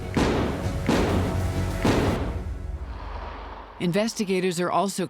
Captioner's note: gunshots